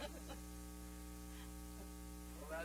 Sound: laughing together

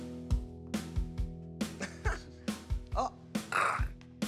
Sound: laughs

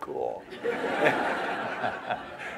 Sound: laughter

